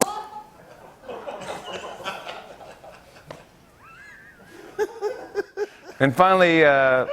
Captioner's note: laughter